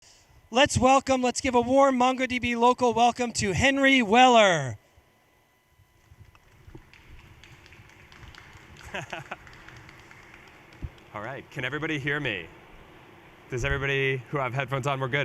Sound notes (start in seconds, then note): 6.2 audience applauds; 8.8 laughs